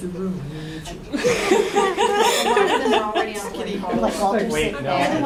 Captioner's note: laughter